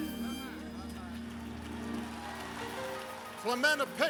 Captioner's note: applause